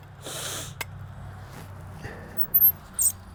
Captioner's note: man sniffs